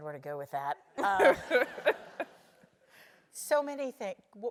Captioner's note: laugh